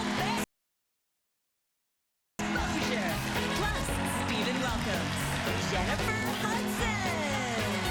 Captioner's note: cheers and applause